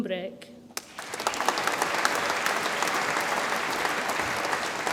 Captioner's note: audience applauds